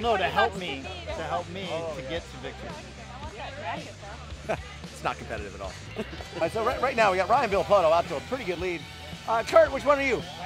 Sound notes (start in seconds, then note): 4.4 laughter; 5.8 laughter